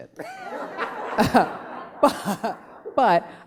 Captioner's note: laughing